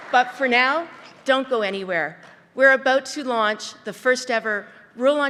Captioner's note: applause